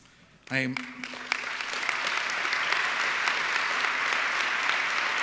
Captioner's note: audience clapping